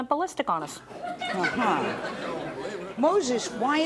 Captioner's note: audience laughs